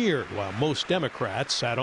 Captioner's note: applause